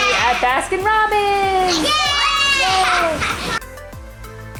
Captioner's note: all exclaiming; all exclaiming; upbeat music